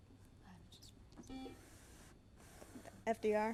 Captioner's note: buzzer